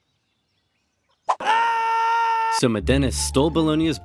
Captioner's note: man screaming